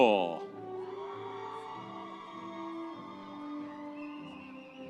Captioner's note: audience cheering